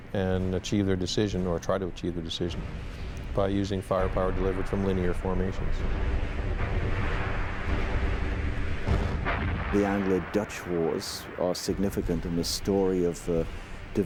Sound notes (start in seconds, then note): 5.9 booming